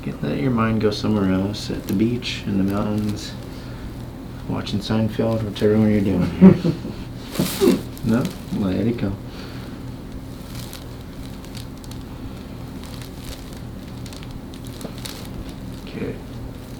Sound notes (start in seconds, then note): 6.1 patient laughing; 7.4 patient grunting